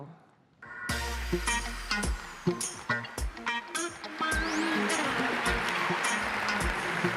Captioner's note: funky music; audience applauding